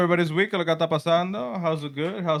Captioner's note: speaking Spanish